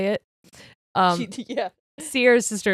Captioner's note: chuckles